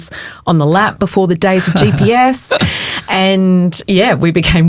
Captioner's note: chuckling